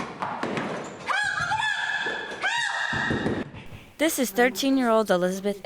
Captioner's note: frantic running